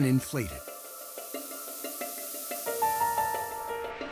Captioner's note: air hissing